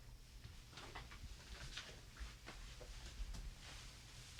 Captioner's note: paper rustles